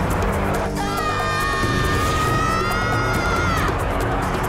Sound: screaming

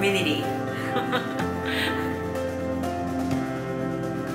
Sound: laughs

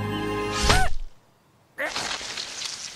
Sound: squishy stabbing sound, the squirrel yelps; blood gushing

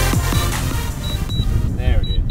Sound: controller beeping

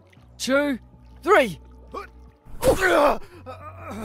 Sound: cry of pain; grunt

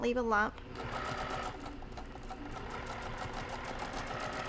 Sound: machine whirring

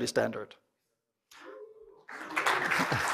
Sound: cheering and applause

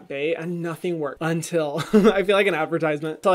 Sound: laughs

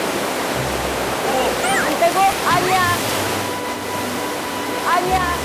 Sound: splash

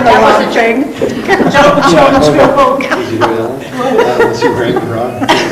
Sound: laughing and over-talking

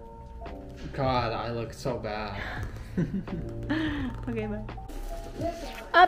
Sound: laugh

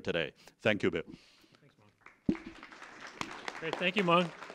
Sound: applause

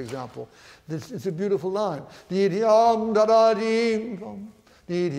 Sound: vocalizes

